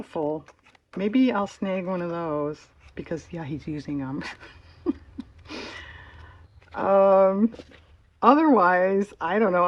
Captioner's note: laughs